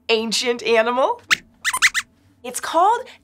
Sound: squeaks squeaks

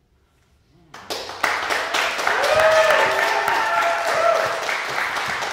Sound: audience applauding

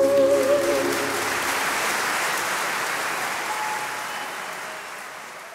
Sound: audience cheering

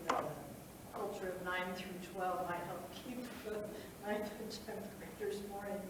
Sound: speaks faintly

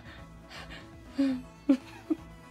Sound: exhale gasps as hand escapes; "fearful" sigh

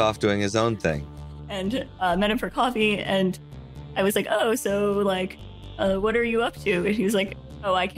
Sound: laughs

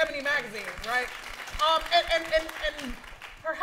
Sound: applause

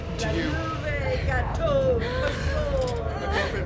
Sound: chanting continues

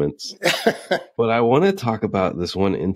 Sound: laughs

